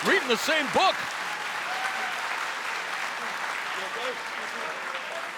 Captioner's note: crowd cheering